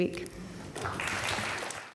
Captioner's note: applause